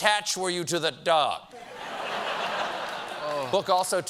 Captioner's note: laughter